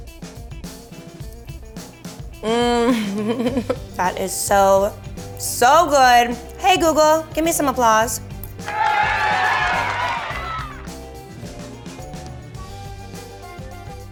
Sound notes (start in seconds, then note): 0.1 upbeat music; 2.4 giggles; 8.6 cheering; 11.4 upbeat music